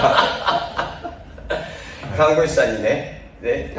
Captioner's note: laughs